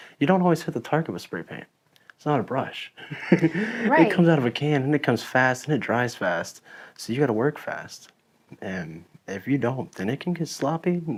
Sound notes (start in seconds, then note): 3.0 laughs